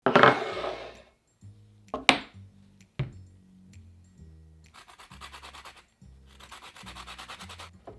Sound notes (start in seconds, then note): 0.1 bowl sliding; 4.8 grating